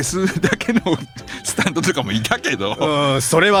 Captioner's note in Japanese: 笑い